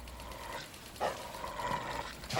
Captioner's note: dog growling